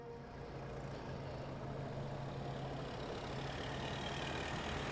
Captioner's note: car approaching